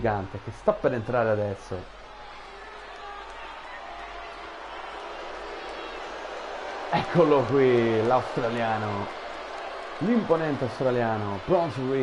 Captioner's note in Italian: Applauso